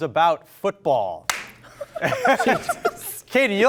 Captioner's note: claps hands; everyone laughing